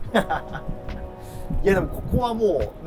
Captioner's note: laughing